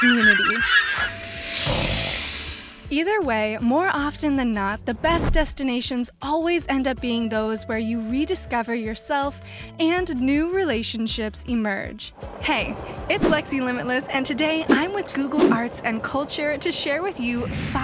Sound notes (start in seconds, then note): 0.0 gulls squawking; 1.6 snarl